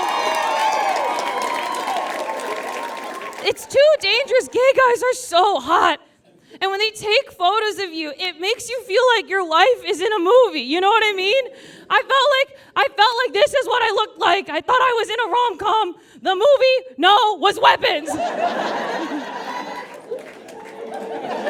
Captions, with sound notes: (audience cheers and applauds) It's too dangerous. Gay guys are so hot! And when they take photos of you, it makes you feel like your life is in a movie. You know what I mean? I felt like, this is what I looked like. I thought I was in a romcom. The movie? No, it was Weapons! (audience laughs)